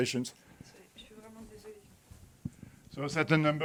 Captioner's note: person speaking in French